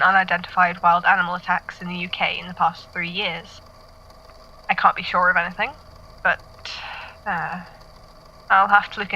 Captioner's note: sighs